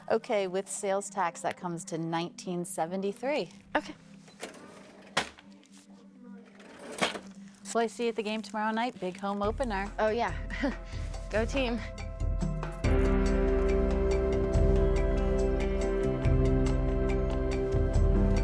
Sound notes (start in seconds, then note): 4.8 cash register clinks; 12.2 upbeat music